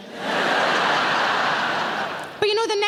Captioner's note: audience laughing